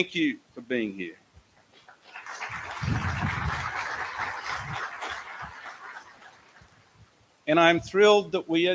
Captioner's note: applause